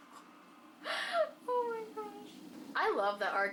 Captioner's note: sighs